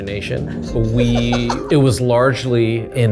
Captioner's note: laughs